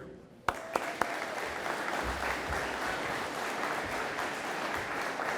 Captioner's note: audience applauding